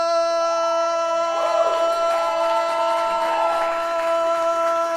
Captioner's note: audience cheering